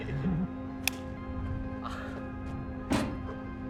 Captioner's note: hands smack; ball thumping